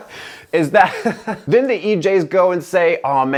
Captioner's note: laughter